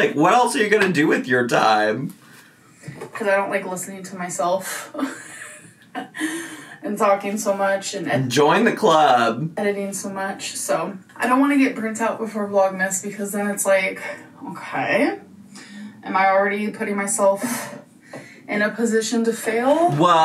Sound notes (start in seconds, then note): 5.0 chuckles